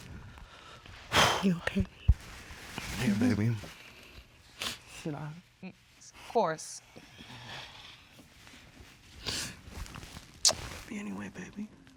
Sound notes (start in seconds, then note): 2.0 exhales